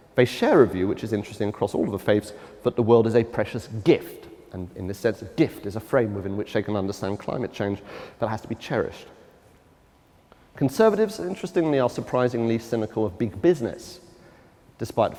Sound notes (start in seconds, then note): none